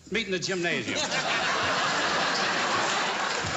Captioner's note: laughter